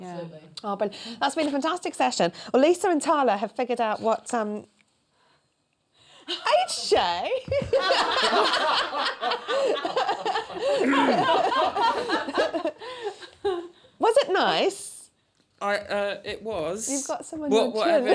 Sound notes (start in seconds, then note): 7.4 laughter; 11.5 clears throat